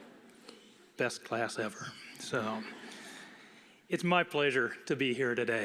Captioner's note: crowd responds good afternoon